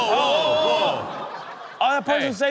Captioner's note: audience gasps